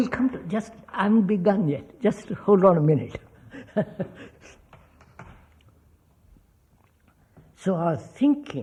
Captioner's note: laughs